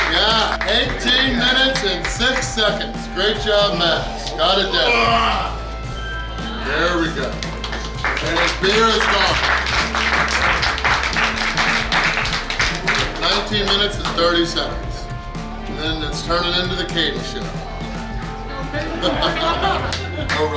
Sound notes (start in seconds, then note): 4.8 groans; 9.4 clapping; 18.6 laughing